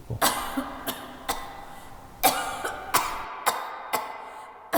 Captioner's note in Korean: 기침소리